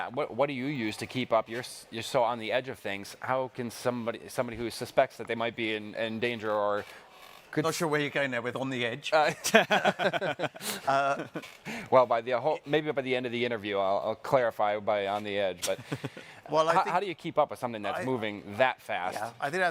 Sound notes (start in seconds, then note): 9.2 all laughing